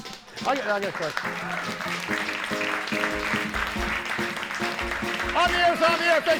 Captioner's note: audience applauding; upbeat music